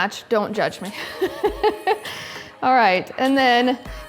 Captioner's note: laughing